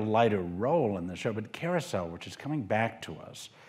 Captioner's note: none